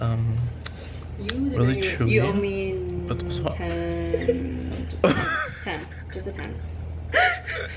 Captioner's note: laughs